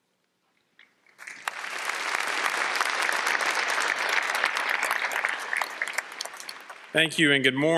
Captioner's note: applause